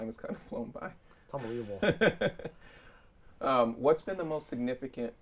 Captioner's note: laughing